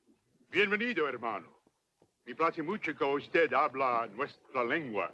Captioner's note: speaks Spanish; Victorio speaks Spanish